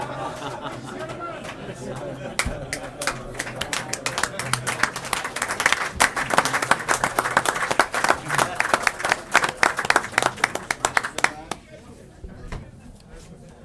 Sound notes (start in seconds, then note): 3.0 applause